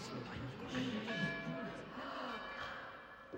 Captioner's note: church bells ringing; people gasping